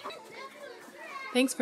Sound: audio clip of voices of kindergarteners on playground fades in

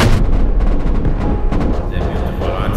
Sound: boom; sounds muffle; Buck's voice reverberates

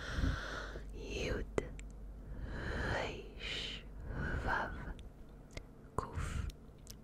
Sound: whispering the letters in Hebrew

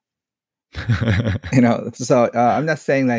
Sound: laughs

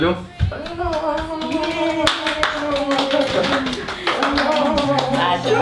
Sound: cheering in Lithuanian

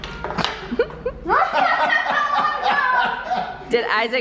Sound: laughing

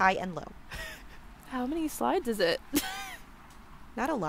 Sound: laughs

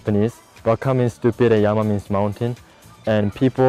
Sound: speaking foreign language

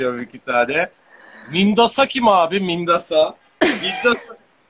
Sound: pronounces in Turkish

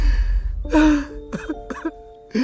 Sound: crying

